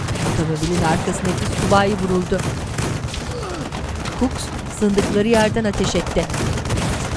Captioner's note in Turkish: Silah sesleri